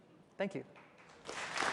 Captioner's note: applause